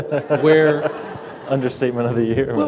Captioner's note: laughter